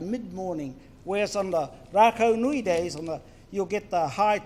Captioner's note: foreign Language